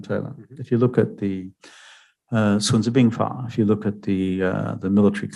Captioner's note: speaking mandarin